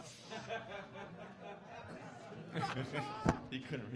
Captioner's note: audience laughing